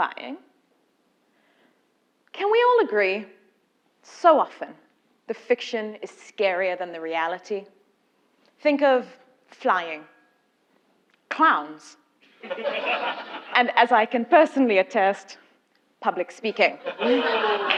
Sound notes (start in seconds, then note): 12.3 laugh; 16.7 laugh; 17.0 applause